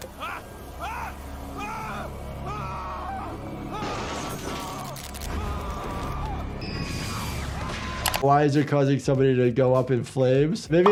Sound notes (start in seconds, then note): 0.2 producer screaming; 4.1 electricity buzzing; 6.9 crowd screaming